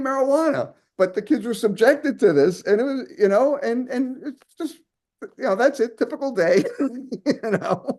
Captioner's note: laughs